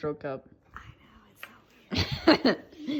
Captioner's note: whispering; laughs